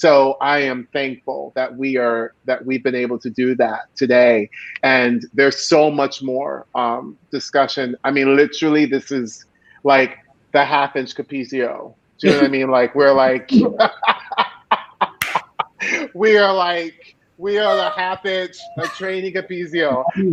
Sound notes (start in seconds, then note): 13.6 laughing